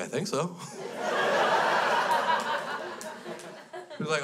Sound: crowd laughs

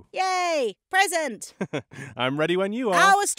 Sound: chuckles

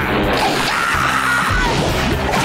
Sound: screaming

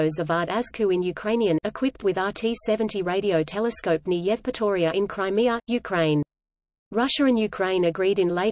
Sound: in Ukrainian

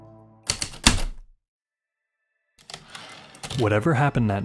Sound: heavy typewriter keystrokes and slide return

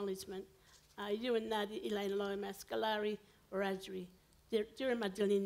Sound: foreign language

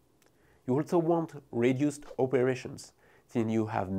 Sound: text whooshing; text whooshing

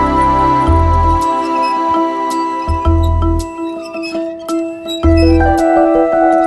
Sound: swing squeeking

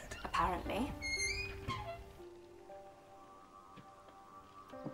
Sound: door creaking

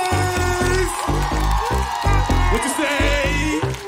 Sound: audience cheering

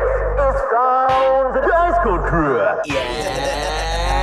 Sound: radio Announcement

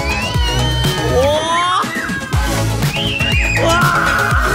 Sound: kids screaming

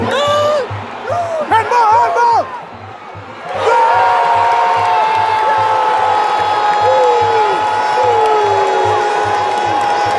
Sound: clap

